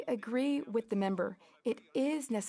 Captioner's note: speaking French